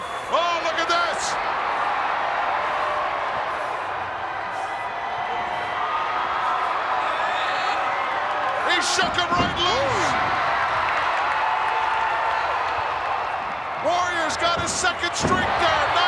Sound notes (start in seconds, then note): 1.5 crowd cheering; 5.4 crowd cheering continues; 10.6 crowd cheering